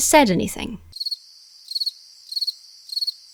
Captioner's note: crickets chirping